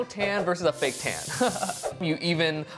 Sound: chuckles

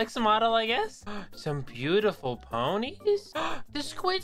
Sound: gasp

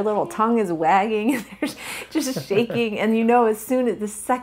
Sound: both laugh

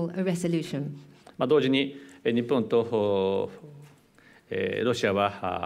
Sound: speaking japanese

